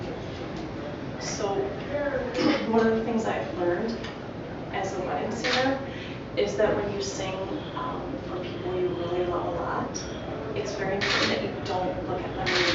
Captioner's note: laughter